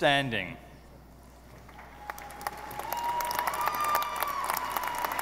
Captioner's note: audience applauding